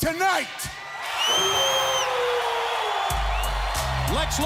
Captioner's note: crowd cheering